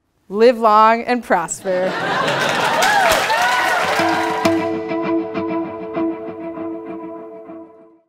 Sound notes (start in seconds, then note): 2.1 applause